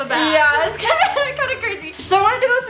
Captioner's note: laughs